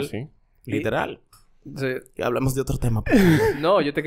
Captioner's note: laughs